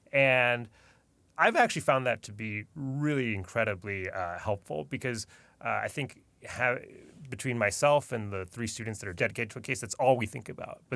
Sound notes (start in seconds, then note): none